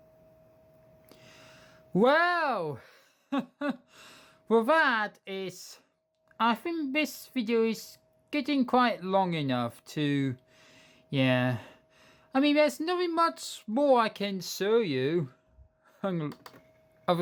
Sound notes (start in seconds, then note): 2.9 chuckle